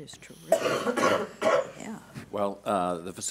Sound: coughing

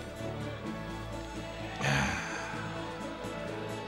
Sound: grunt

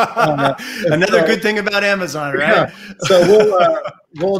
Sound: laughs; laughs

